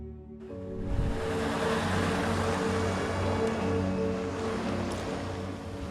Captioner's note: truck engine roaring